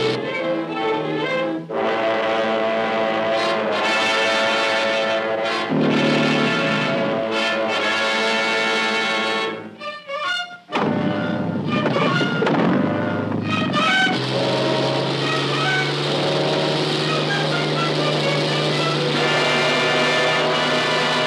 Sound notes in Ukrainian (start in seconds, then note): 0.3 гурчання гелікоптера; 8.8 запуск двигуна; 15.4 рев мотора; 17.8 гурчання гелікоптера